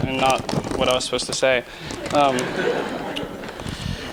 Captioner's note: laughter